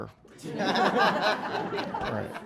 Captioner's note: laughter